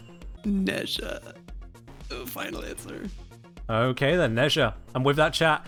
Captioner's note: strained